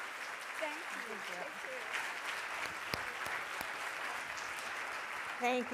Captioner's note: audience applauding